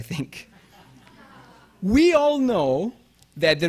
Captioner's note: audience laughing